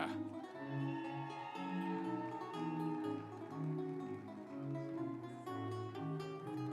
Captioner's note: instrumental music; audience cheering